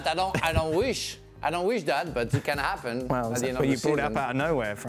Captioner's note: laughter